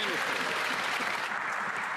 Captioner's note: applause